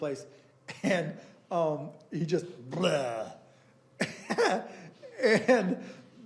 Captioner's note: laughing